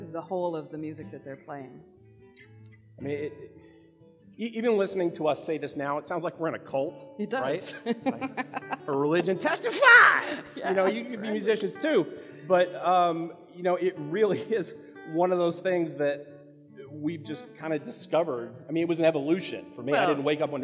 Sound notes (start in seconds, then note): 7.6 laughs